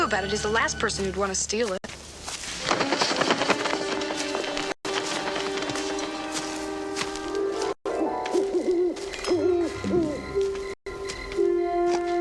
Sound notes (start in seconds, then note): 2.5 bird flapping; 8.3 owl hooting; 10.9 crickets chirping